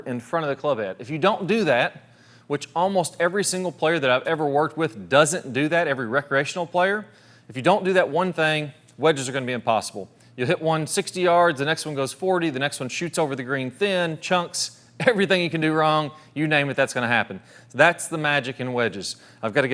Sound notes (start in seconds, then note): 15.0 chuckles